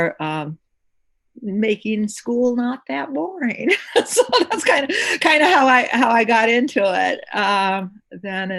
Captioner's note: laughter